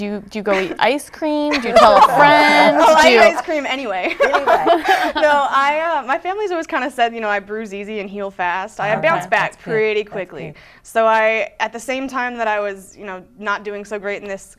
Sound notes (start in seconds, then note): 1.5 laughter; 1.5 laughing